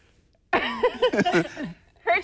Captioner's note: laughter